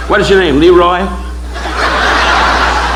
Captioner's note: audience laughing